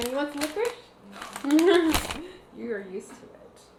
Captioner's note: laughs